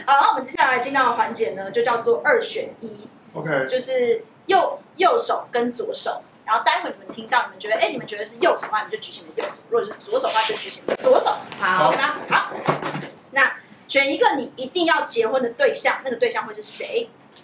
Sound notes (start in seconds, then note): none